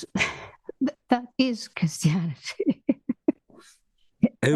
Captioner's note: laugh